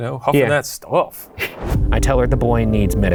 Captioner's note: chuckles